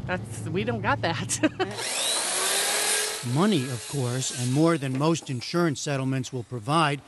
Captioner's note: laughter